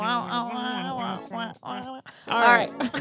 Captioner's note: both beatboxing